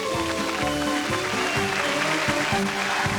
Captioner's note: applause